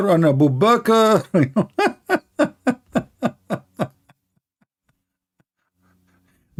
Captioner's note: Ketawa